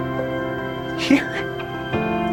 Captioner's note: voiceover